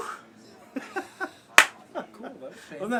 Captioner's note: laugh